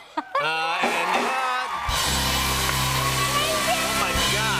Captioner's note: laughing; cheers and applause